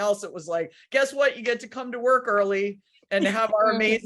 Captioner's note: laughs